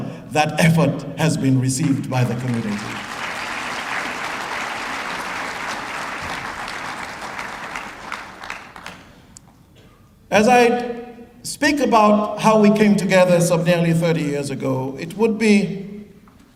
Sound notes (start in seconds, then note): 1.8 applause